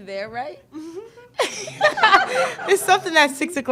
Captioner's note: Aliyah giggles; all laughing